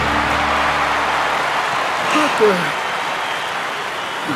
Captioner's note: crowd cheers